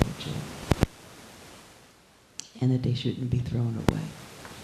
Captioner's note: static hissing